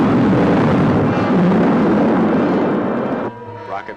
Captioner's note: rocket rumbling